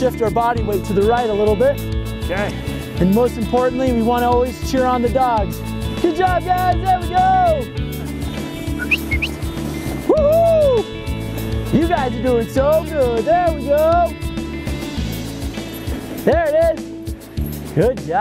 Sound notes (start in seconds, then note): 8.6 whistles